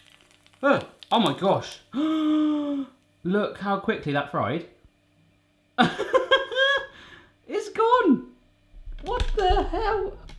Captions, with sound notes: Oh, oh my gosh. (gasps) Look how quickly that fried. (laughs) It's gone, what the hell?